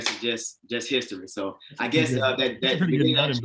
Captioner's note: chatter